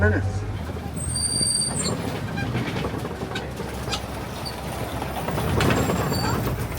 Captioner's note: vehicle squeaking and rattling